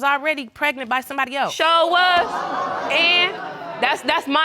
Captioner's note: audience exclaiming